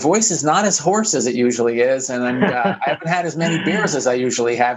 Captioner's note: laughs